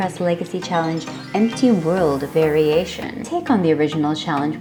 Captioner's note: magic chime sound